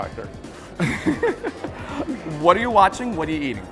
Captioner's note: laughs